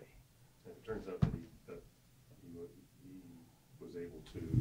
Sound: voiceover

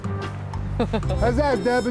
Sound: laugh

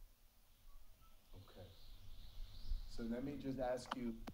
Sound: person faintly whistling

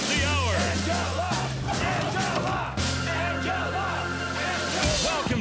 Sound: chanting

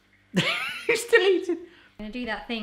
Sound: laughing

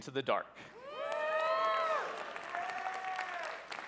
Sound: cheering

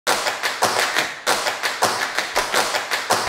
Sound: tap dancing

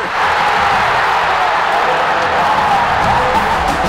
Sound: cheering

